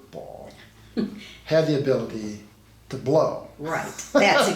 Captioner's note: laughs